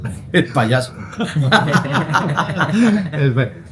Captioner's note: laughter